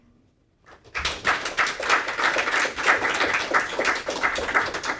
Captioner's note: audience applauding